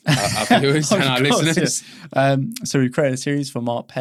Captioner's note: laughs